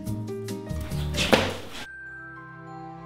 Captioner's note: smack